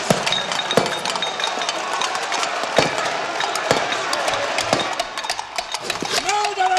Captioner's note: cups clanking